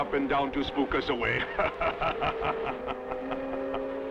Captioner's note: laughing